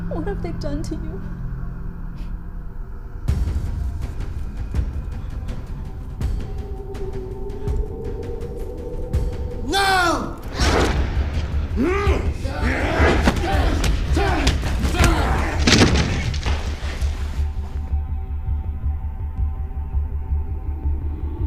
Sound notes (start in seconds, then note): 3.2 dramatic music; 10.2 whooshing; 10.6 groaning; 12.8 thudding